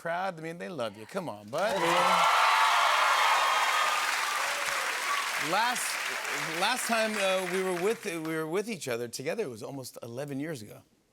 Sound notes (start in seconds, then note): 1.5 cheers and applause